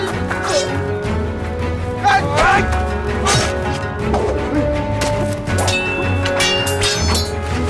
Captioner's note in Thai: เสียงการต่อสู้